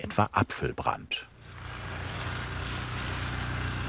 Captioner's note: engine rattling